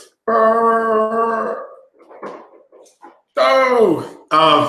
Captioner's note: groaning